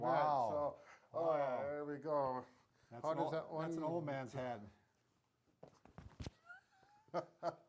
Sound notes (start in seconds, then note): 6.4 laughs lightly together